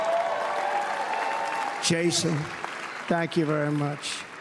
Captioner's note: cheers and applause